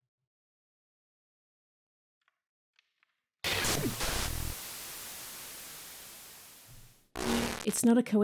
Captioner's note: static